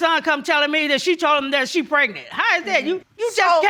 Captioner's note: stuttering